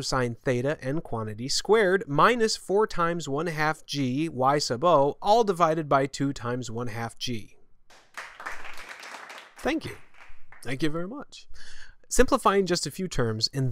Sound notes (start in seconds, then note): 7.9 applause